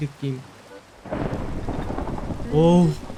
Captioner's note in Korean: 천둥소리